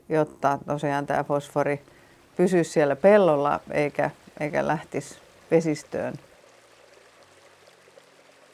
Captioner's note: purling stream